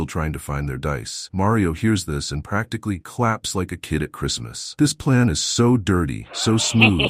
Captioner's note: claps like a kid at Christmas